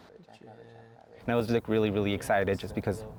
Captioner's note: voiceover